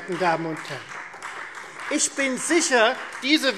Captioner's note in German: Beifall Freie Demokraten